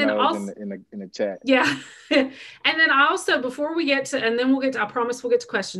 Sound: chuckles

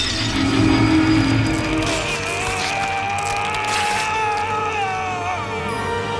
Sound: moaning

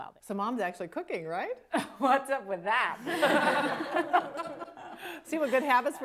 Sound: all Laugh

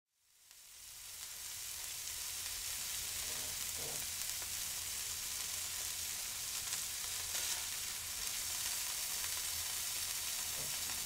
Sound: meat sizzling

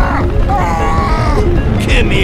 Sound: The I-185 screams; The I-185 groans

